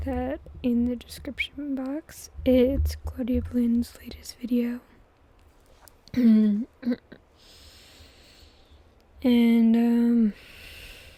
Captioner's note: clears throat